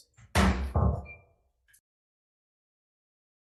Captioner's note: gavel bangs